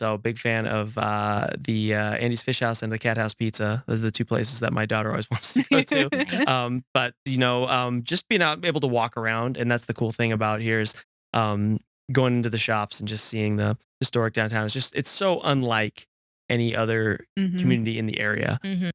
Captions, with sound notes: So big fan of the Andy's Fish House and the Cat House Pizza. Those are the two places that my daughter always wants to go to. ( Laughs) But, you know, just being able to walk around, and that's the cool thing about here is going into the shops and just seeing the historic downtown. It's so unlike any other community in the area.